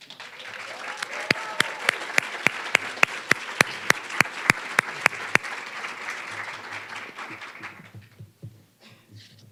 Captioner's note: applause